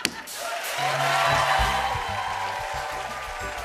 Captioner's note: cheers and applause